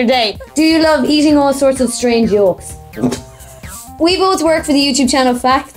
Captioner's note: laughs